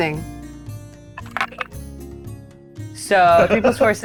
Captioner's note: die rattling